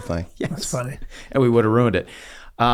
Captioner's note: laughs